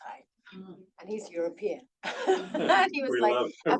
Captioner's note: laughs